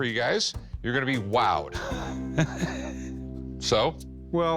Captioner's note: laughs